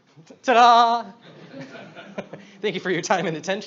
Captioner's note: he laughs with the audience